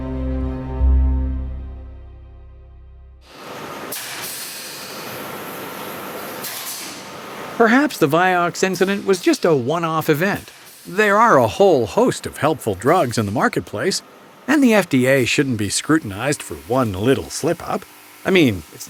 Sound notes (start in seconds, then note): 4.7 machine hisses; 8.1 voiceover